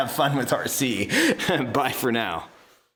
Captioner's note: laughing